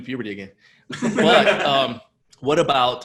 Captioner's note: laughter